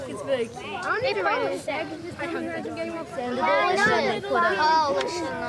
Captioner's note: children chattering